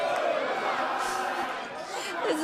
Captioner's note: fans chanting